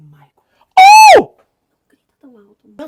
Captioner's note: scream